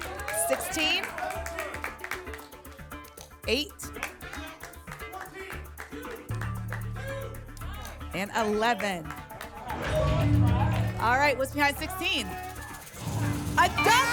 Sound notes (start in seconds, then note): 1.6 applause and cheering; 5.0 audience shouting numbers; 9.6 whoosh; 9.6 ping; 13.0 booms